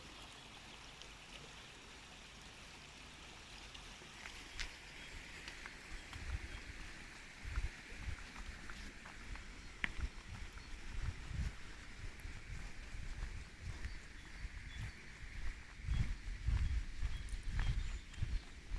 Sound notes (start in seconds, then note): 1.4 brook noise; 16.4 walking